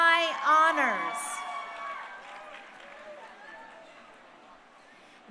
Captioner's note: crowd cheering